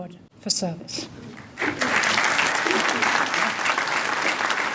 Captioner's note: applause